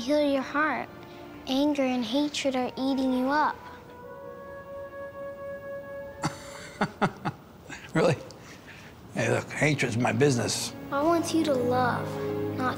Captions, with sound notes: Anger and hatred are eating you up. [chuckle] -Really? Hey look, hatred's my business. -God wants you to love not to hate.